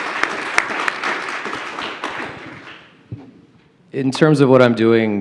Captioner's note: applause